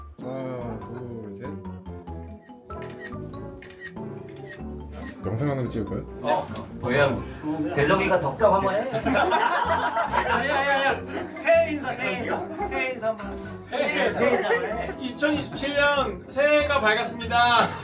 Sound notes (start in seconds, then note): 2.7 click; 3.3 click click; 3.6 click click click